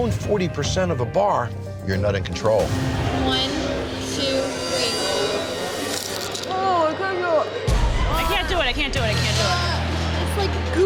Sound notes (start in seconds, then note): 5.9 chip crunching